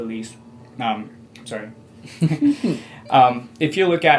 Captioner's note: both chuckle